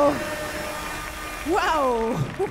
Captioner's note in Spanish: Aplausos